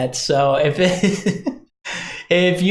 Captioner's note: laughs